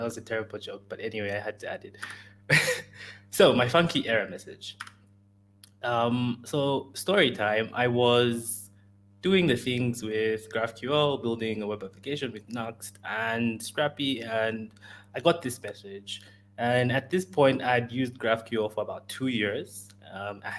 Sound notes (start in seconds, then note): 2.5 chuckles